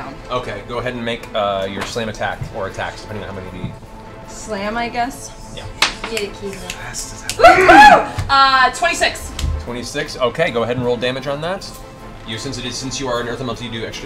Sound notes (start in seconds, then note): 0.0 deep voice; 7.3 cheering